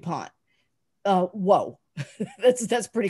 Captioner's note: laughs